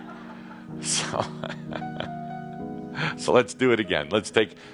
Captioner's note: more chuckles